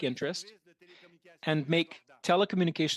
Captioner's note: speaking French